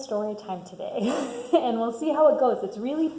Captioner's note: laughs